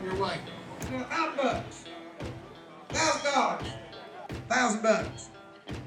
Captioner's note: auctioneer yelling